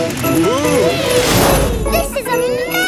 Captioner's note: all exclaiming